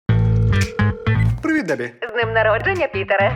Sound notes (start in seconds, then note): 0.4 line ringing; 0.4 phone beeps